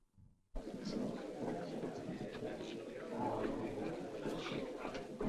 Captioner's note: people chattering